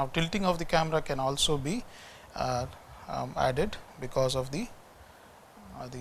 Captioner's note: distortion